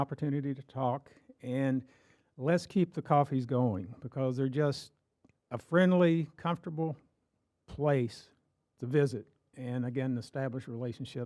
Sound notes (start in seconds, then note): none